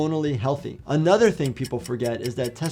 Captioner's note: clock ticking